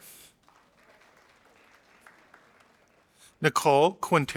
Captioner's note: audience applauding